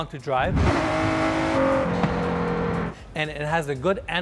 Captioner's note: car engine revving